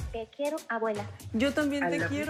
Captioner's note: non-english speech